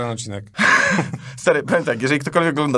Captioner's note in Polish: śmiech